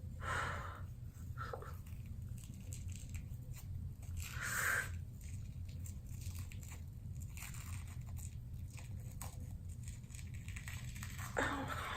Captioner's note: ripping and tearing sounds